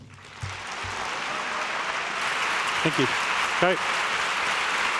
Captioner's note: applause